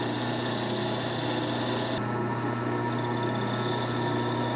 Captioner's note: machine running